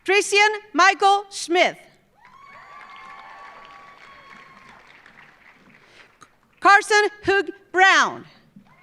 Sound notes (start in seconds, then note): 2.2 audience cheering; 2.2 audience applauding